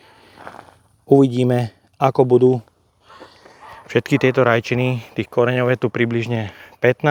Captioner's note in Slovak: smrkanie